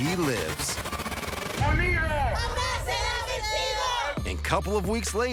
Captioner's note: chanting